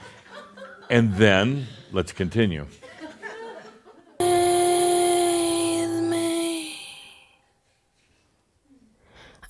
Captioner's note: some giggles